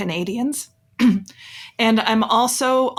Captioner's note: coughs